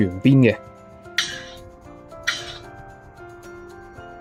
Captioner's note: wooden spatulas make a pleasant sound